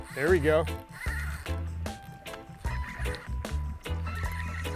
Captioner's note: reel whirring